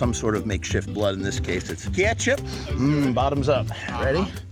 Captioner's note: Ketchup sniff